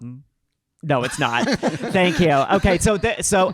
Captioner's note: panel laughing